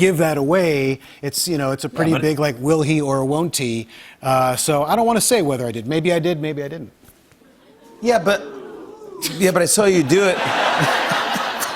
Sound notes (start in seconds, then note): 7.6 audience oohs; 10.0 laughter